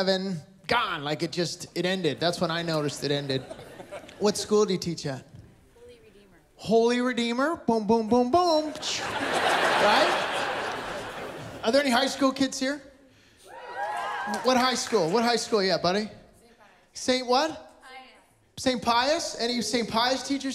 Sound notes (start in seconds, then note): 8.6 laughter; 13.5 A few cheers